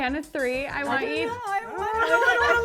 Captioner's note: laughs